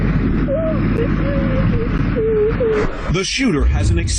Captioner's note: woman crying